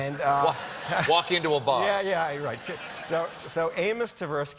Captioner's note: laughter